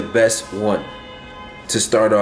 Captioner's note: honking